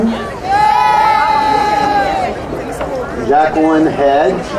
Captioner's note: crowd cheering